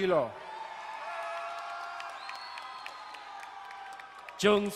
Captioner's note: crowd cheering and applauding